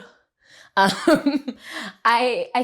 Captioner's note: laughs